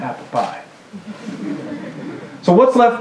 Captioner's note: laughter